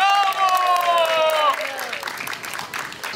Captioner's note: applause